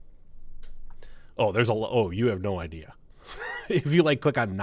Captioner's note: laughs